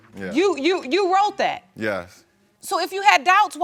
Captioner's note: stammering